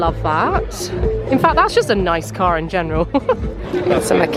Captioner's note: giggles